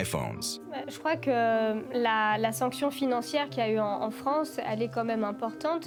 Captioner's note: speaks in French language